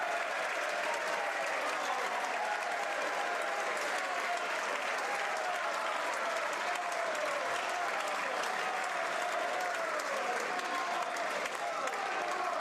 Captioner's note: some Applause